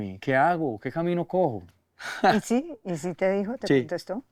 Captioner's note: giggle